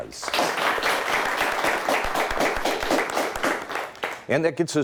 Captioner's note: audience applauds